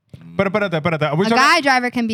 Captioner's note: speaking Spanish